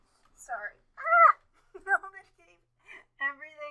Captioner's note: wailing